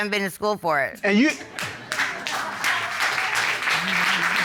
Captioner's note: audience applauds